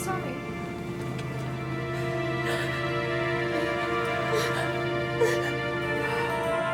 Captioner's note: sad music; Linda sobbing